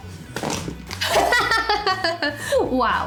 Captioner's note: laughs